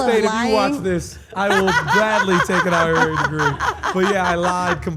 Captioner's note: laugh